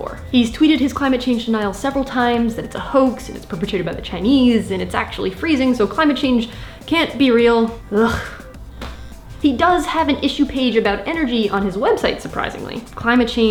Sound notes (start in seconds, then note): 8.0 heavy sigh